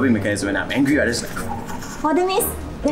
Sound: frantic scribble noises

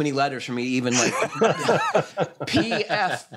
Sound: laughter

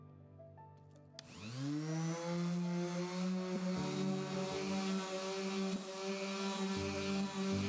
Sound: tool buzzing; calming music; tool buzzing

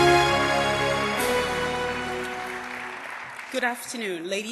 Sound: audience applause

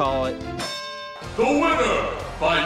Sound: bell dings

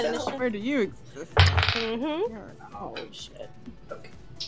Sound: dice rolling

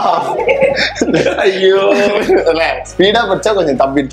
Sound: laughs

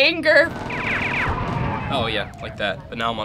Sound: gunfire and sirens

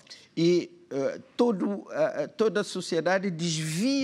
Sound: speaking portuguese

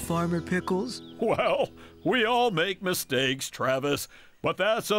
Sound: chuckling

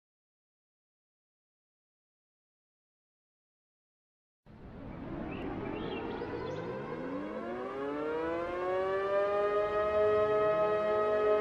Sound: sound of siren

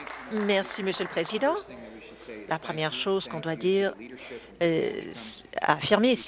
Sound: applause

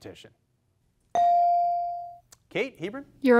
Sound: device dings

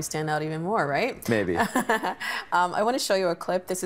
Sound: chuckling

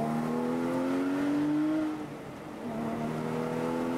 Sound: car racing

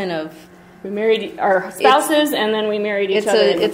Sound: voiceover

